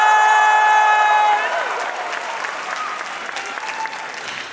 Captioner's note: applause; cheering